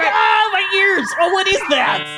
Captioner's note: phone ringing